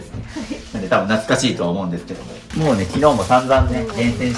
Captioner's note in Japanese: 笑い